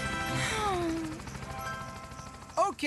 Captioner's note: Courtney Sighing